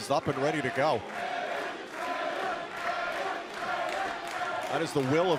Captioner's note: crowd cheering